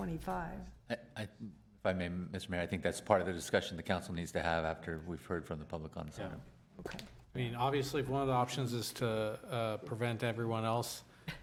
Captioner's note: laughter